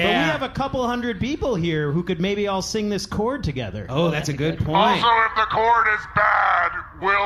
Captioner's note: none